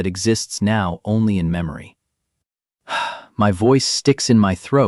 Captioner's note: sighs